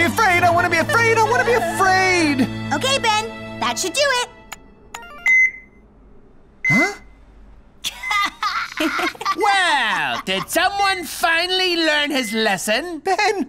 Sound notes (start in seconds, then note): 4.8 beep, beep; 7.8 laughing